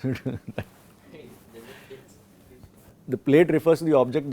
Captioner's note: laughs